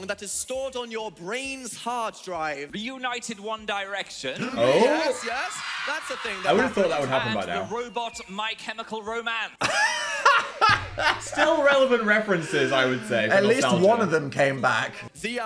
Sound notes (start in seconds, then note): 9.6 Dan laughing